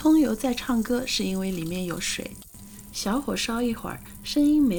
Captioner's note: sizzle